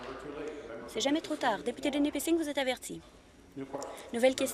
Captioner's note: applause